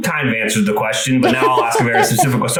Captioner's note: laughs